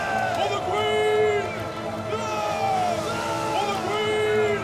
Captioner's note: cheering continues